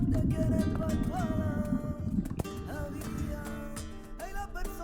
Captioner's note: underwater bubbling